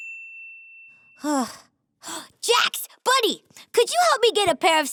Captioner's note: ping; sighs